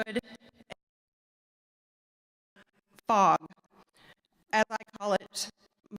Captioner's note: audio cuts out